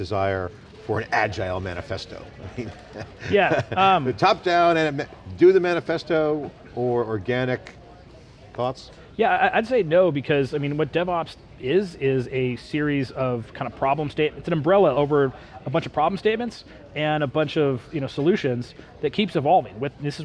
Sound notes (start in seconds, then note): 2.4 laughs